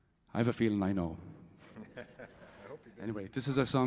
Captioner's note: laughs